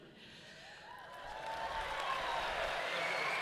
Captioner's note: audience cheering; audience clapping